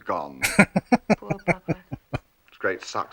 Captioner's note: laughing